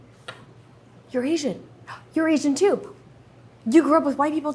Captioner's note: Arden gasps